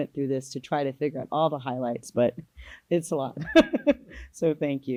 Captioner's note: laughs